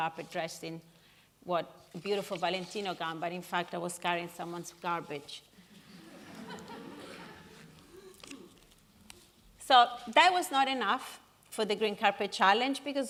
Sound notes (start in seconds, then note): 5.8 laughing